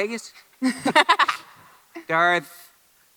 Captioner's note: Ridley laughs